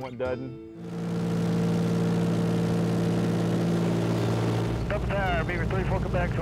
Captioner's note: engine revving